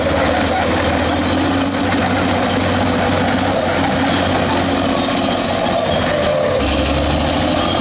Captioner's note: Turbo Power Bulldozer Sound